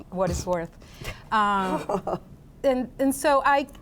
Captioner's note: laughs